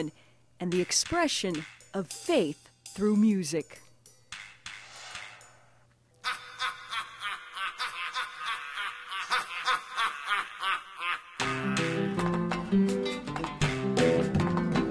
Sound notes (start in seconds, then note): 6.2 men laughing; 11.4 lively folk music